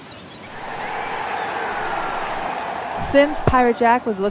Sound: cheering

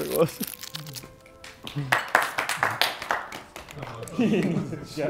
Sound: Sidemen clapping

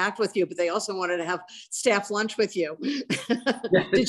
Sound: laughs

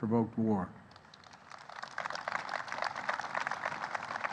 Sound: applause

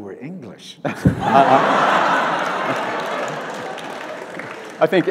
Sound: audience laughs

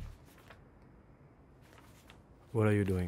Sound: dramatic music; rustling of paper

